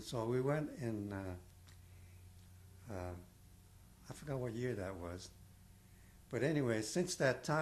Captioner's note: pauses for 3 seconds